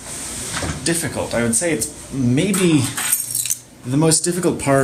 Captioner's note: keys jingle